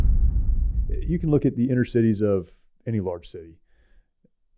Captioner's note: explosion